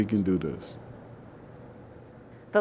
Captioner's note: ambient air